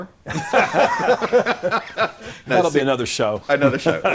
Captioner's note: all Three LAUGH